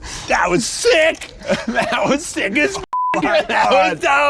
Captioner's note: beep